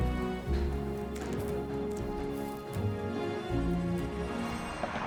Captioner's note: dirt thudding